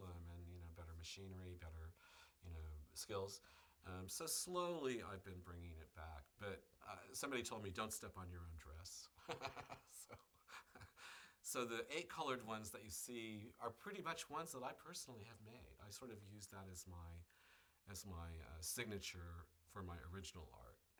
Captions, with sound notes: And you know, better machineary. Better, you know, silk. And, so, slowly I've been bringing it back. But, somebody told me, "Don't step on your own dress." [Laughs] So. So, the eight colored ones you see, are pretty much ones that I personally have made. I sort of use that as my, as my signature for my original art.